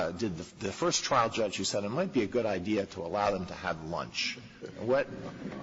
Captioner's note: laughter